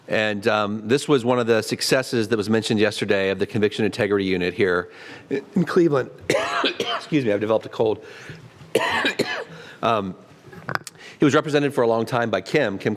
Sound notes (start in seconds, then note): 6.1 cough